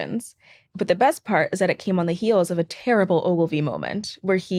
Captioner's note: none